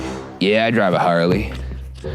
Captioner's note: none